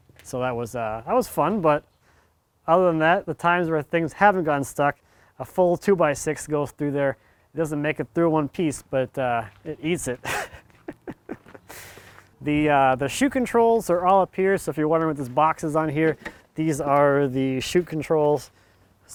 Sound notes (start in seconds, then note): 10.1 laughs